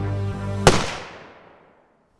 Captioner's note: gunshot